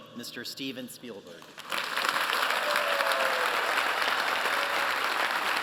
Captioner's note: applause